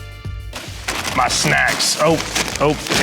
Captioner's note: bags crinkling